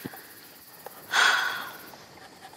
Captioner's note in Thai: เสียงถอนหายใจ